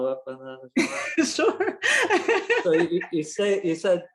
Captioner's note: laughs